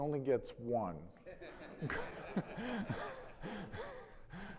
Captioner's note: audience laughing